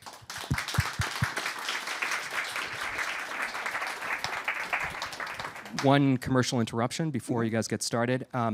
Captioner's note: cheers and applause